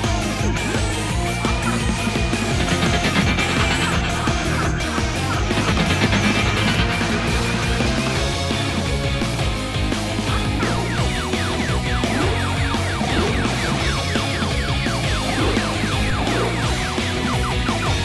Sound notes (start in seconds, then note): 2.3 six million dollar man slo-mo noise